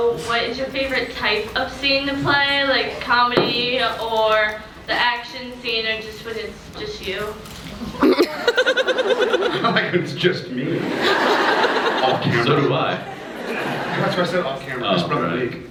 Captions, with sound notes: what is your favorite type of scene to play, like comedy or the action scene or just when it’s just you? [scattered laughs] [laughs] I like when it’s just me. [laughs] Off camera. So do I. That’s why I said off camera, Oh, right. I sprung a leak.